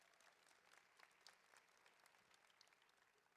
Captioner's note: applause